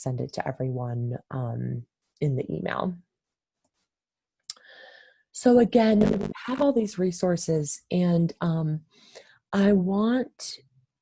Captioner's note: electronic interference